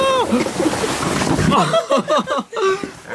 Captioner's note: laughing